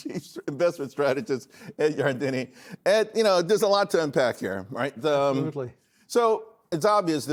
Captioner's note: laughter